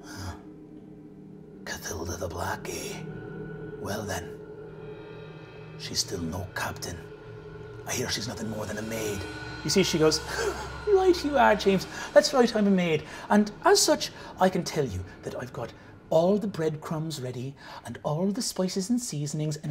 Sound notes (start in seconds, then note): 2.0 foreboding music continues; 10.4 laughing